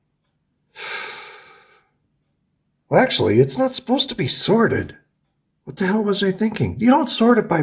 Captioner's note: inhales